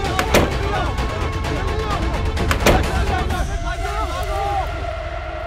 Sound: door closing; door closing

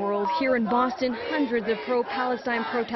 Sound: chanting

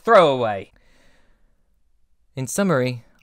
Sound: deep breath

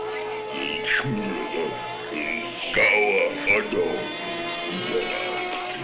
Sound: speaking in a foreign language

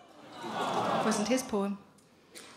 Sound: audience sympathises

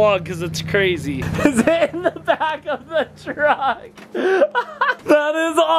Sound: laughing

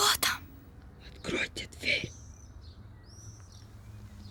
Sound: whispering

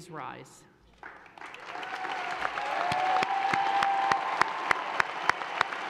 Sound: audience cheers and applauds

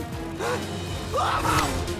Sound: screaming

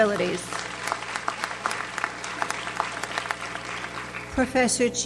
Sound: audience applauds

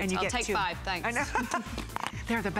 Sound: laughter

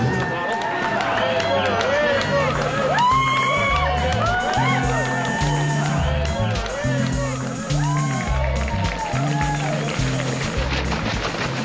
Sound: cheering and clapping

